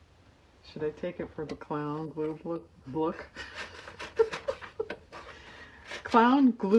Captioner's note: laughs